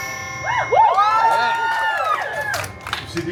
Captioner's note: guests cheering